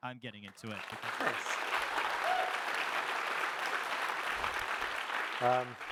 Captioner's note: audience applauding